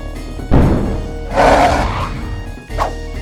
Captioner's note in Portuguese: Rugido